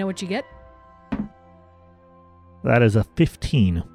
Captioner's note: dice roll